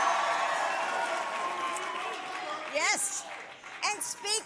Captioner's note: applause